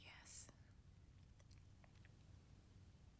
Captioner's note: whispering